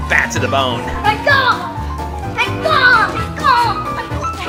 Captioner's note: yelling